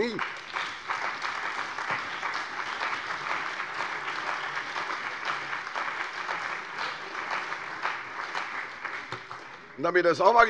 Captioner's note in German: Beifall bei der CDU und dem BÜNDNIS 90/DIE GRÜNEN